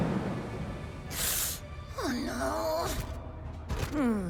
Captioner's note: whispers